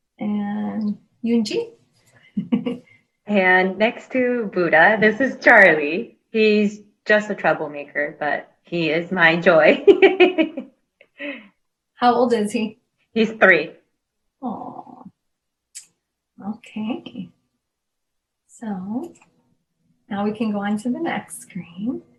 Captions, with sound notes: And Yunjee? - (laughs) And, next to Buddha, this is Charlie. He's just a troublemaker, but he is my joy. (laughs) - How old is he? - He's three. - Aww, okay. So now we can go into the next screen.